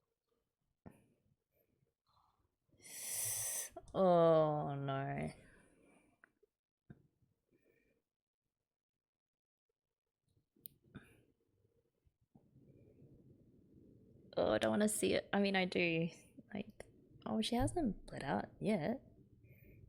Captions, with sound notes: [sharp intake of breath] Ugh no... Ugh I don't want to see it - I mean, I do. Like - Oh, she hasn't bled out yet.